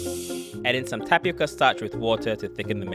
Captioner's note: voiceover